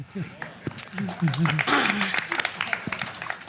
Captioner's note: applause